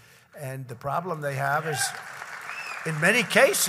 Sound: applause

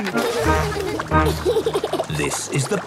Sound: giggles

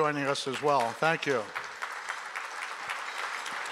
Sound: applause

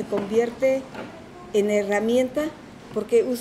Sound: speaking in Spanish

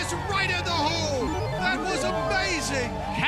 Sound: beeping

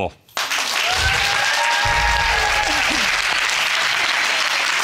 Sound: audience cheering and applauding

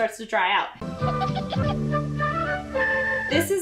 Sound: whimsical music; child giggles

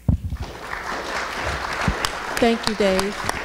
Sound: audience applauds

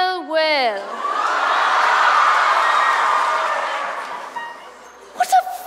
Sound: audience cheers

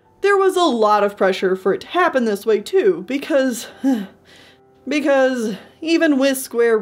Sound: sigh

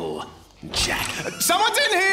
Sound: door opening

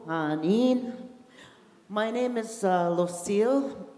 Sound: in English

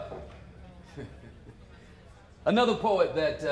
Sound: laughs

